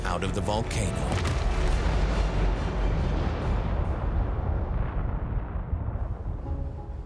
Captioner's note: explosion echoes